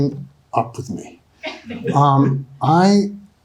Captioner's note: audience laughing